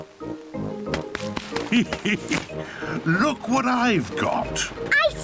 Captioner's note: laughs